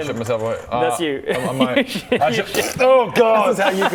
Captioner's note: pffp